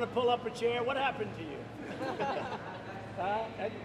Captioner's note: laughter